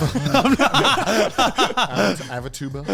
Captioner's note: all laughing